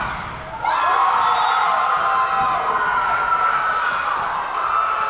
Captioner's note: crowd cheering